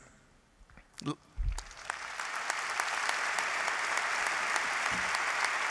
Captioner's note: applause